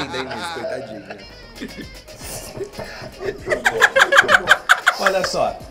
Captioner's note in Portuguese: risos